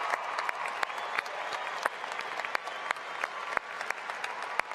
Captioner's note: cheering and applesause